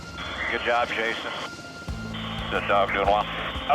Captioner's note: man Over Radio